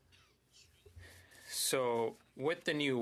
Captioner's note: speaking in French